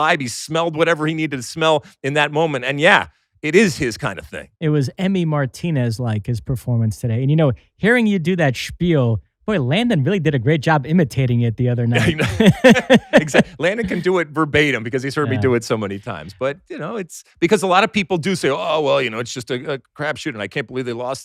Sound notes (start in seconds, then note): 11.9 laughs